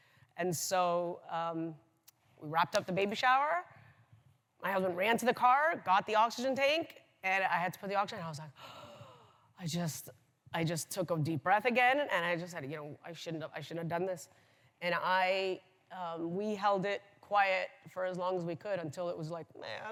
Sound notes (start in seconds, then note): 8.6 inhales